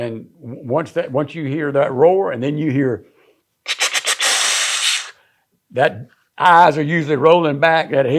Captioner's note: wheezing